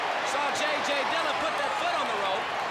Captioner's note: crowd chatter